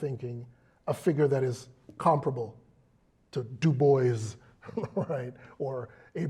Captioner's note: laugh